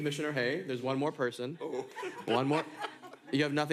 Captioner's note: laughter